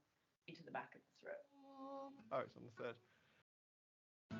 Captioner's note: hums